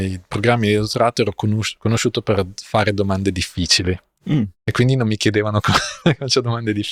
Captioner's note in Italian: schiarire la voce